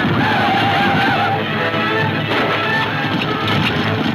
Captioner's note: gunfire pops